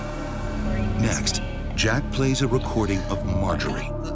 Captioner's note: voiceover